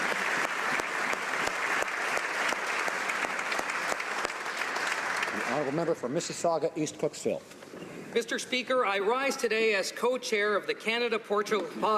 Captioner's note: applause